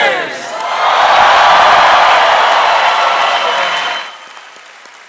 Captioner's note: audience clapping and cheering